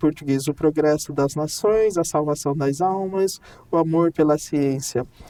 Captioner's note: speaking in Portuguese